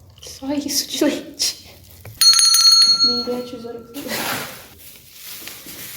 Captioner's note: bell rings